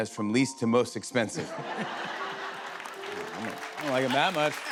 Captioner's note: laughter